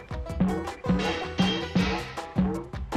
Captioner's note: pipe clanging